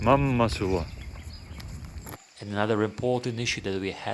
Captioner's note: birds chirping